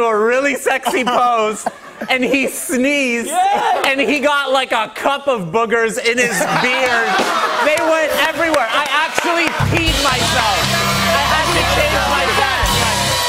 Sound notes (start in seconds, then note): 6.2 laughter; 10.2 cheers and applause